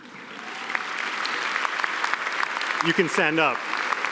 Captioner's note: applause